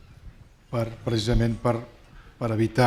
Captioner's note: speaking spanish